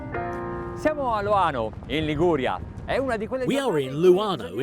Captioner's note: speaking foreign language